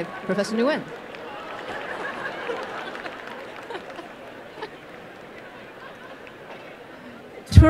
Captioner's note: applause